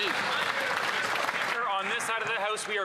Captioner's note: some Applause